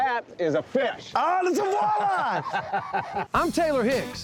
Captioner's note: laughing